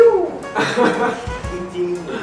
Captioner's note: pheww; laughs